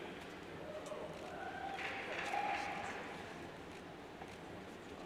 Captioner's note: cheers and applauds